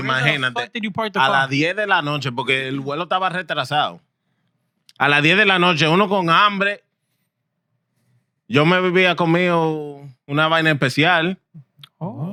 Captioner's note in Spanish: Hablando en idioma extranjero